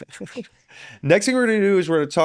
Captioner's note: laughing